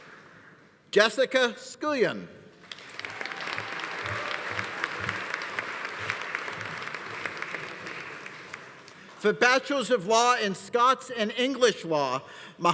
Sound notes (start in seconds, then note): 2.6 audience applauding; 2.8 audience cheering